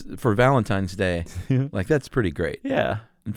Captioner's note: laughs